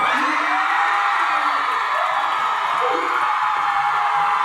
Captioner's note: crowd cheering